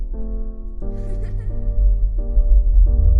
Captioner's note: gentle music; child laughing; gentle music